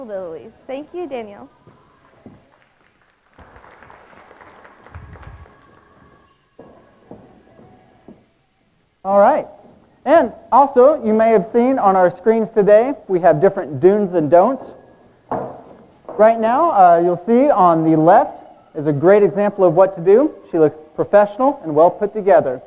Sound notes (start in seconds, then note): 2.0 audience clapping